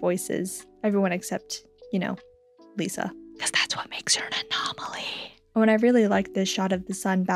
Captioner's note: whispers